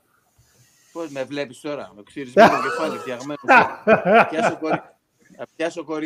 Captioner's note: Γέλια